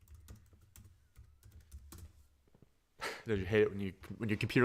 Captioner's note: keyboard clacking; chuckles